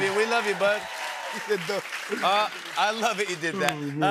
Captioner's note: cheers and applause